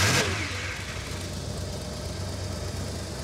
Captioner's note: engine revs; engine rumbling